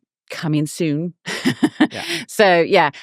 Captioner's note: laughing